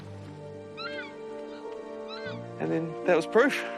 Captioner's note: takahe screeching